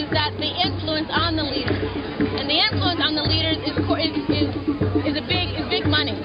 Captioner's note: none